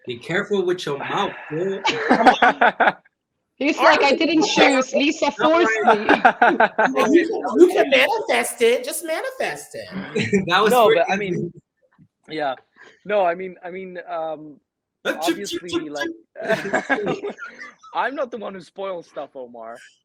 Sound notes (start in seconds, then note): 1.9 all laughing; 15.0 shushing